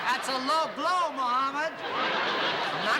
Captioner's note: laughter